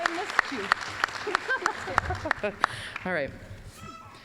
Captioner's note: applause